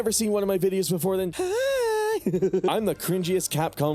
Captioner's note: intolerable cringe noise